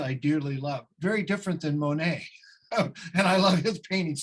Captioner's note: laughs